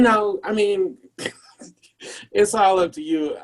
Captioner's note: laughs